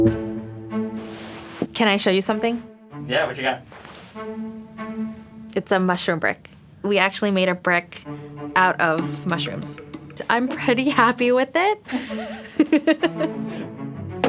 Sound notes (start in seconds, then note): 0.0 inquisitive music; 11.8 giggles